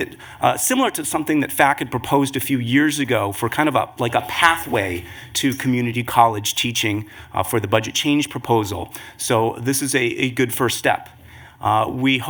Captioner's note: audio skipping